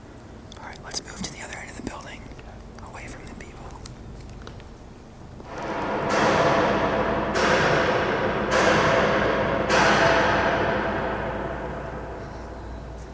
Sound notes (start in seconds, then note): 5.4 more banging